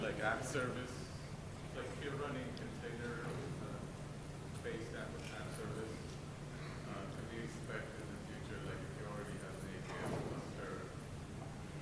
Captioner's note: off mic